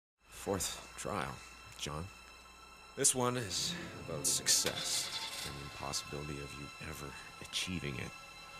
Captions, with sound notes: Fourth trial, John. This one is about success. (Engine revving) There's no possibility of you ever achieving it,